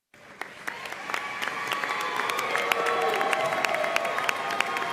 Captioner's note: audience cheering and applauding